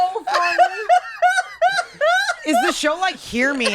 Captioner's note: laughs